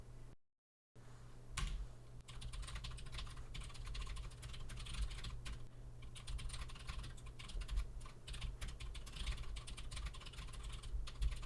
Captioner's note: typing sounds